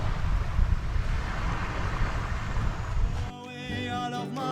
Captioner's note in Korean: 파도소리 asmr